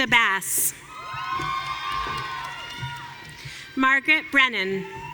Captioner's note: audience cheering